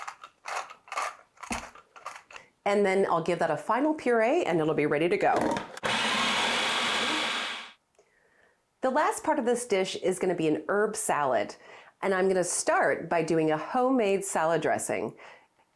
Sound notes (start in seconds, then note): 0.1 pepper mill grinding; 5.8 food processor whirring